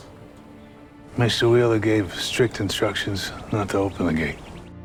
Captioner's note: voiceover